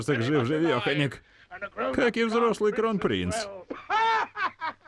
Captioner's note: laughs